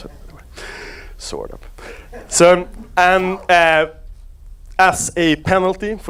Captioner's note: audience laughs